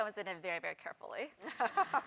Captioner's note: laugh